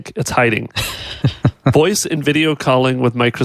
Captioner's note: laughing